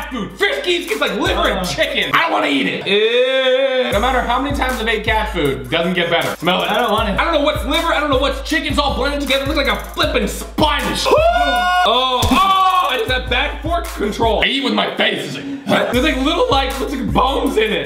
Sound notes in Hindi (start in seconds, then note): 10.6 चिल्लाना